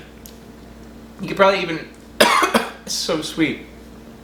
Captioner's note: coughs